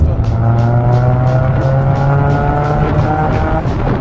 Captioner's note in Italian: sound Spitfire e musica crescono